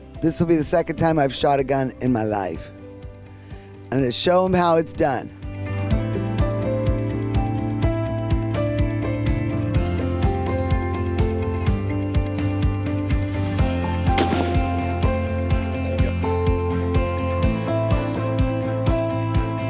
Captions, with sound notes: This'll be the second time I've shot a gun in my life and then show them how it's done. (soft music) (gunshot fires) (soft music)